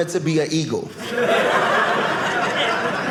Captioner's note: audience laughing